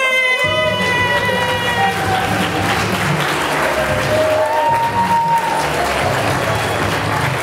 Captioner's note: whistle